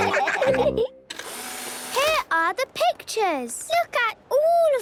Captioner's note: whirring